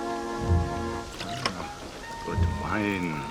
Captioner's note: wine pouring